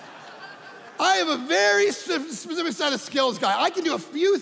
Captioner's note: audience laughing